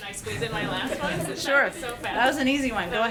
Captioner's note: laughter